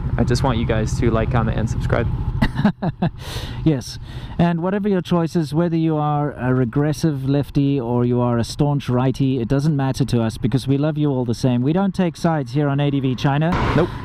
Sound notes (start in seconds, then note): 2.4 laughs